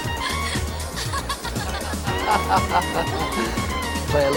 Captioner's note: laughing